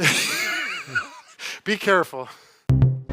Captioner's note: both laughing